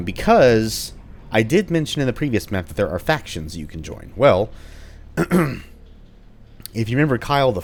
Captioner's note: clears throat